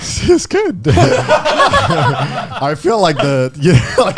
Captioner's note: laughs